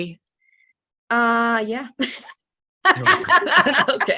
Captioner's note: laughs; laughs heartily